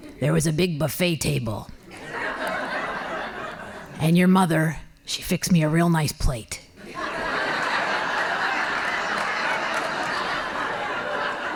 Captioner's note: laughing